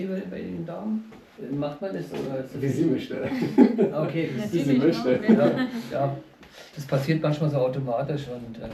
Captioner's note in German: gelächter